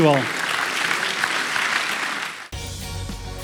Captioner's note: applause